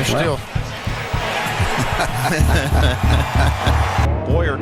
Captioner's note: commentators laugh and crowd cheers